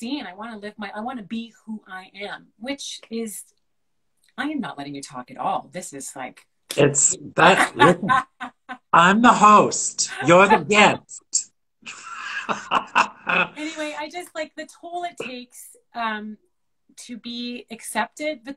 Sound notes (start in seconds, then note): 11.8 both laugh